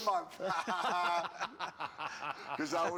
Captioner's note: laughing